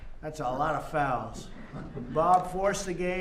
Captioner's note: laughter